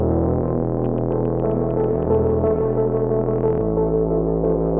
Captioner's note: typing keyboard